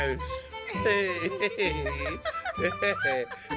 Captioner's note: laughing